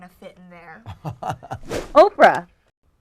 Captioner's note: chuckles